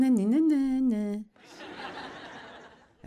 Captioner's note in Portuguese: audiência ri